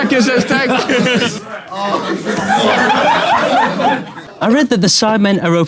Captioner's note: people in room laughing